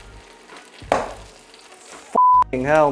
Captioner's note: pan clanks